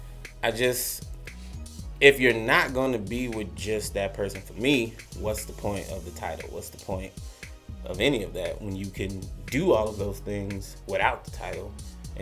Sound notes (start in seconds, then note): none